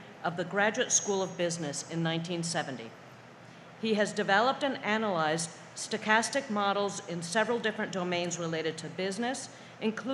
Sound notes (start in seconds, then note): none